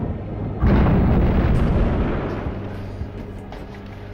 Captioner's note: explosion